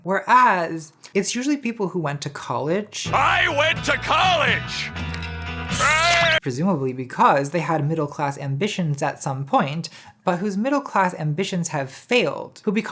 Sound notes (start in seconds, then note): 5.7 screaming